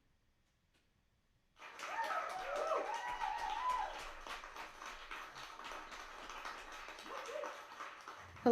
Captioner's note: applause and cheers